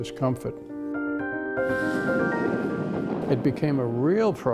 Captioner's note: airplane noise